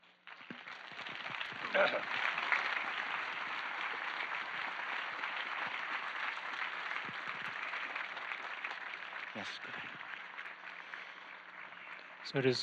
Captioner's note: clapping